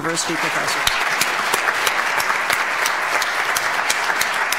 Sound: audience applauds

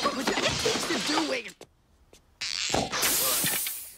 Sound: crashing

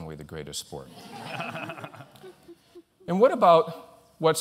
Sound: laughter

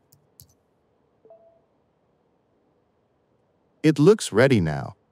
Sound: gentle chiming

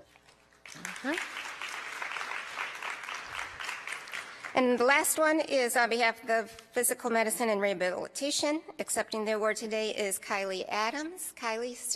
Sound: applause

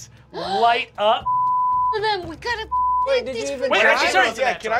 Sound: beep

